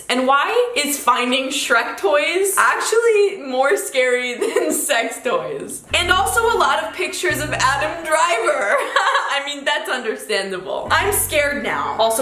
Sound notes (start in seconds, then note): 8.5 giggles